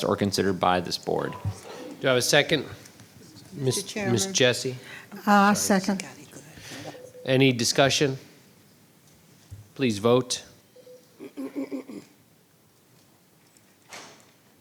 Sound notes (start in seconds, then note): 6.5 whispering; 11.2 clearing throat